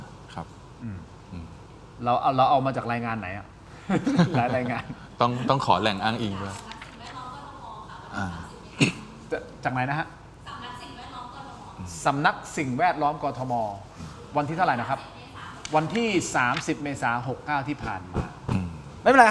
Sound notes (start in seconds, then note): 3.8 laughter; 8.7 clears throat